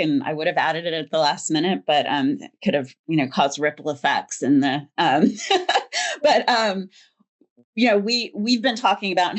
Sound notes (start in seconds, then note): 5.3 laughs